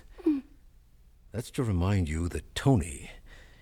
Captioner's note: gasps